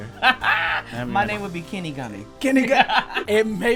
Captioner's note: laughter